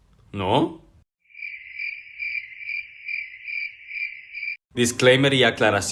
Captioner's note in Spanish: sonidos de grillo